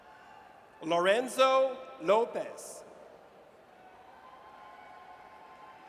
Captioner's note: audience cheers